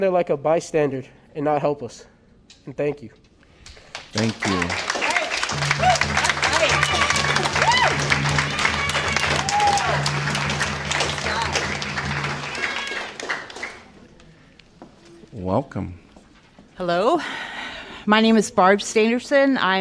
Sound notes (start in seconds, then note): 3.7 applause